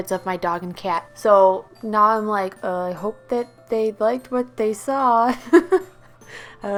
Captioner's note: laughs